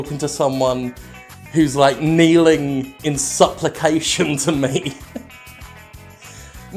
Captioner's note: chuckles